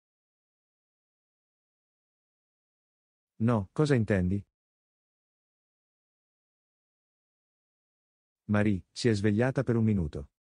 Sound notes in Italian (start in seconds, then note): none